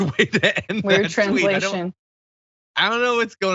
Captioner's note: laugh